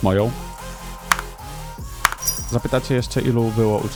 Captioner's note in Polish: klap